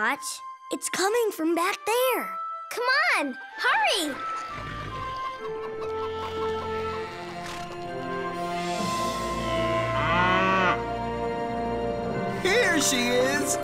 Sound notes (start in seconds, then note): 9.2 mooing